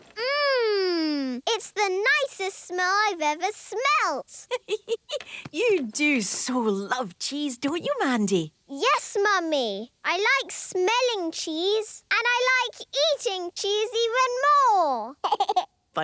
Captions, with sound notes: - Mmmm! It's the nicest smell I've ever smelt! - (giggling) You do so love cheese, don't you, Mandy? - Yes, Mummy! I like smelling cheese. And I like eating cheese even more!